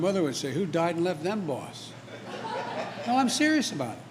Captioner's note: laughter